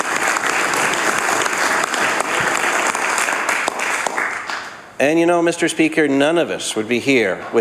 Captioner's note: applause